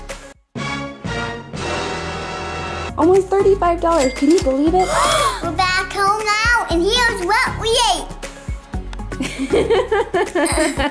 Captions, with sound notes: (dramatic music) - Almost $35, can you believe it? (gasps) - We're back home now and here's what we ate! (mom laughs)